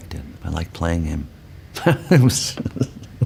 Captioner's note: laughs